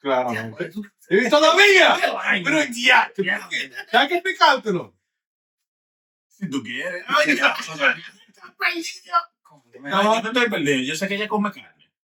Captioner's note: speaking In Foreign Language